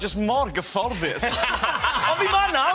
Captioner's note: laughter